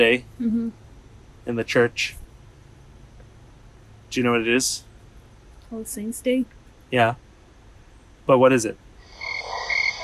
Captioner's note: crickets